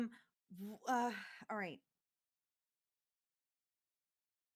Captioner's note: sighs